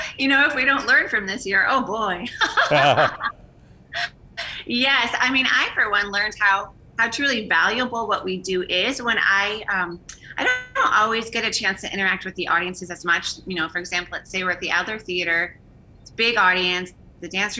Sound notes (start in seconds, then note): 2.2 laughing